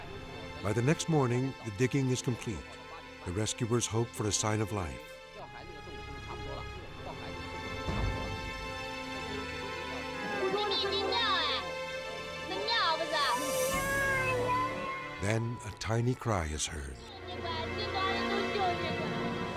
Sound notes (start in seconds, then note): 5.3 intense music; 10.1 mother speaking in Chinese; 13.7 child crying; 17.0 mother speaking in Chinese